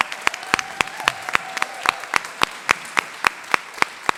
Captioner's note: applause